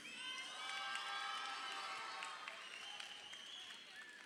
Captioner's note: crowd cheering